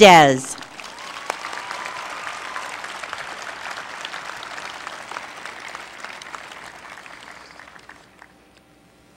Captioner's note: applause